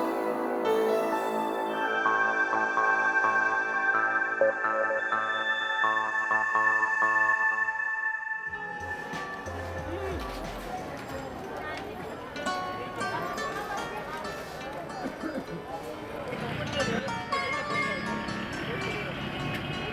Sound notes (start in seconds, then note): 9.3 people talking in background; 15.5 vehicles passing